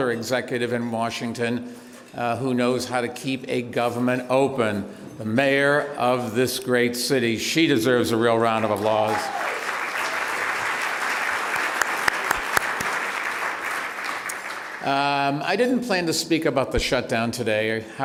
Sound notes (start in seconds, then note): 8.6 applause; 11.8 clapping